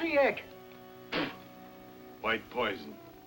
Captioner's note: spits